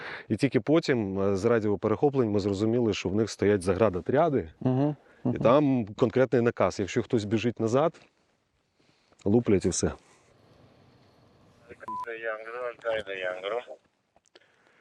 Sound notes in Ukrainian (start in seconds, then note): 11.8 з рації